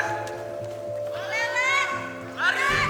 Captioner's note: PKS yelling